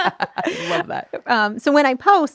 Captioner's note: laughing